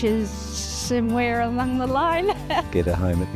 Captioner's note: laughs